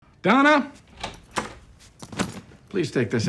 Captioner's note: door handle clicks